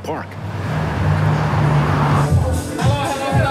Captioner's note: traffic; dance music